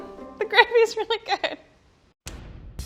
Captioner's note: laughing